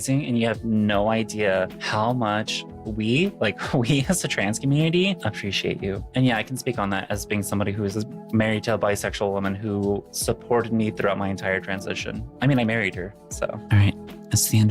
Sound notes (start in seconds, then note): none